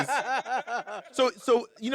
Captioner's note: laughing